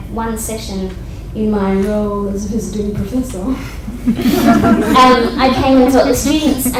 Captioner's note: audience laughter